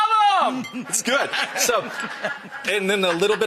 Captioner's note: audience laughs